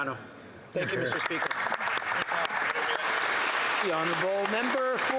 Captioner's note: speaking italian